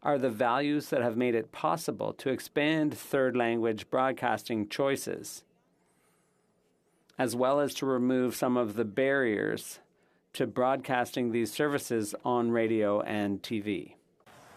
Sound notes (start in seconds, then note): 1.5 speaking French